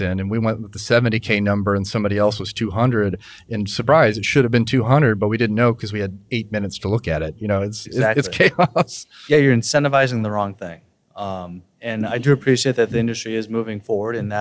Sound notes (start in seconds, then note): 8.0 laughs